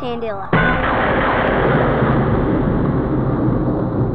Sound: lightning strikes

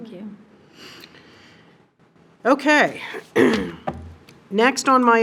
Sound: clears throat

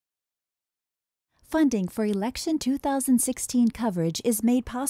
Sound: voiceover

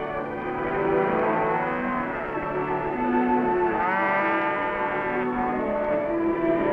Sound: orchestral music; cattle lowing

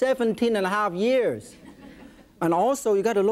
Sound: audience laughs

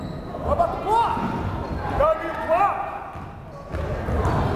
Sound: fans shouting

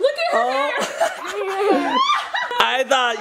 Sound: people laughing

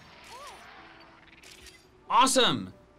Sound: photo snapping

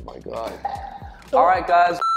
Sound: gagging

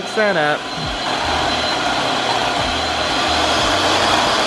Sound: mixer whirring

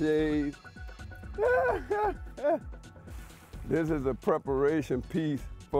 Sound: laughing

